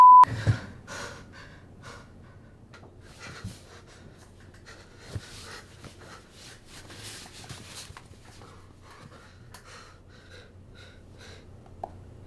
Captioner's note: panicky breathing